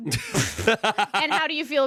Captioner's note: laughs